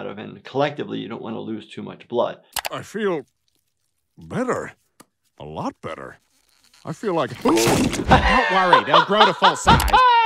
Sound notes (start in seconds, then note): 7.7 Stan screams